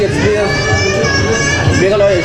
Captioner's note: child Crying